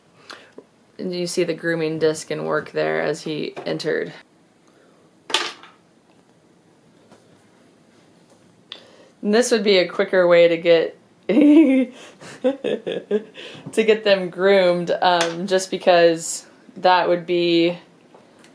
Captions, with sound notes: And you see the grooming disk in work there, as he entered. (treat clatters) And this would be a quicker way to get (laughs) to get them groomed, just because that would be,